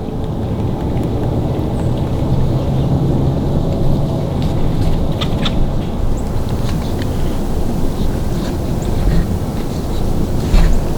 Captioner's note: sound of road noise